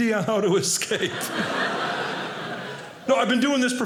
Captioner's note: audience laughing